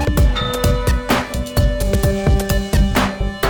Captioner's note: ding